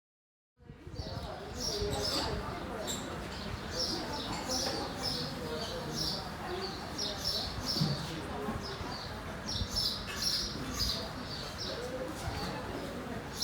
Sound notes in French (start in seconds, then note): 1.7 chant des oiseaux